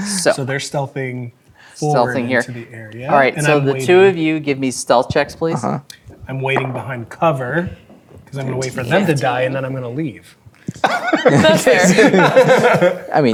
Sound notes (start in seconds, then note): 6.6 dice rolling; 10.7 players laughing